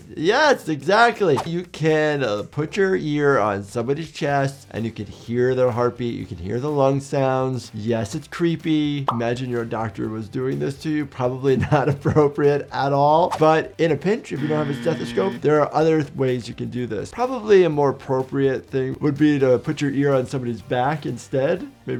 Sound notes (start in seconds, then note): 14.4 buzzer buzzes